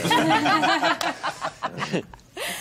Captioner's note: all laughing